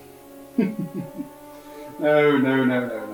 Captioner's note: maniacal Laughter